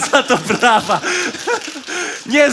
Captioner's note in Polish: oklaski publiczności